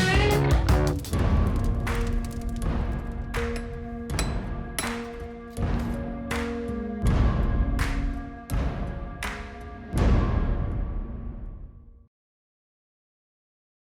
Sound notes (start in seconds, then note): 1.6 dramatic music; 4.0 hammering